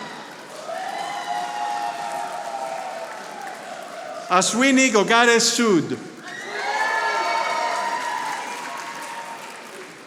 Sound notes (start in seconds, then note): 0.0 audience applauding; 6.1 audience applauding